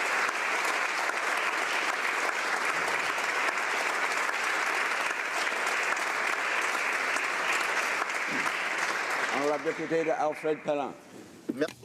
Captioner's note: applause